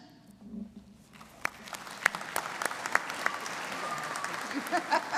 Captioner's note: audience applauding